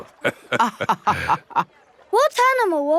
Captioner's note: both laughing